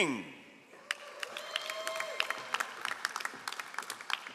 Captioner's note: all applauding